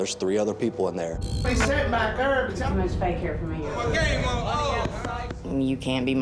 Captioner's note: inmates chatter